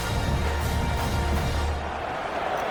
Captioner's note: crowd Noises